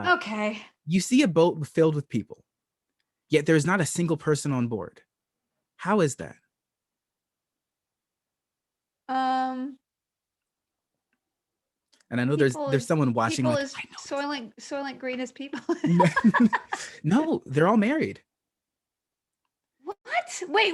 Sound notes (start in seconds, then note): 11.6 laughter